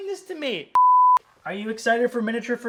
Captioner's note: beep